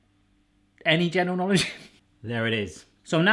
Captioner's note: laughs